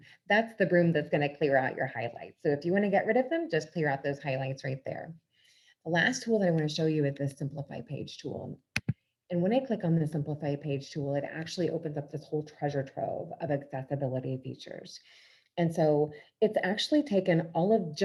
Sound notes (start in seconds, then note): none